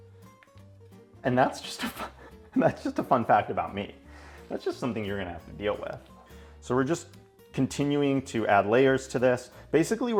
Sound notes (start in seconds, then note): 2.1 laughs